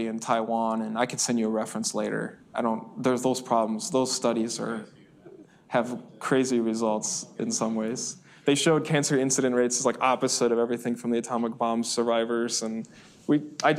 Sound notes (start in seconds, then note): 6.4 student murmuring